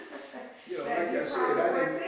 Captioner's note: laughs